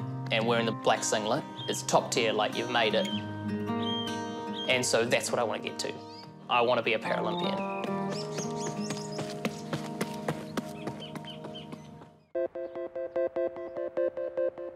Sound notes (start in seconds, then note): 9.4 birds chirp; 12.3 hopeful electronic music